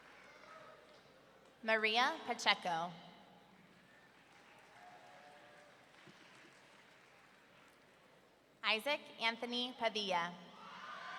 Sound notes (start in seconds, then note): 5.2 audience clapping; 10.9 audience cheering